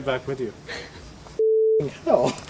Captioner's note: chuckles